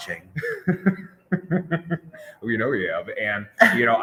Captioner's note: laughs